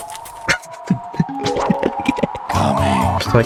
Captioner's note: laughs to myself